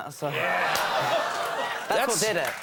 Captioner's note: crowd cheers